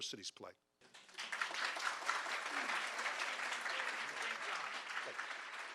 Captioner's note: audience clapping